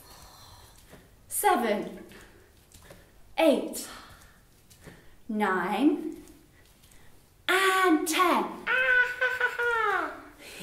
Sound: laughs

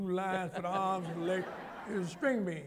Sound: laughter

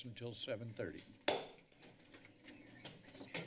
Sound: hits gavel; chatter

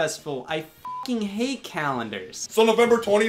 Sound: beep

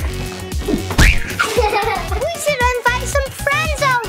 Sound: screams

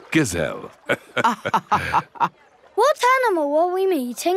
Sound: both laughing

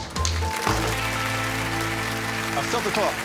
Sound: applause

